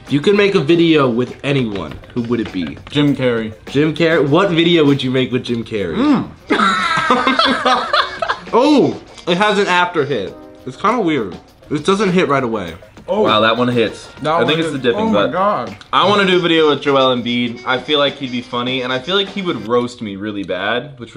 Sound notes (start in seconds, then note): 6.0 laughs